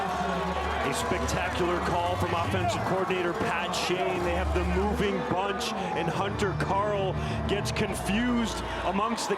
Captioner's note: cheering and Applause